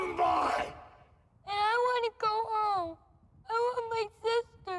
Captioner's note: tearfully